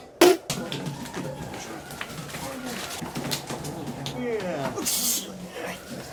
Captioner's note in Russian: сдавленное ворчание толпы